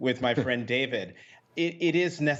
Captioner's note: laughter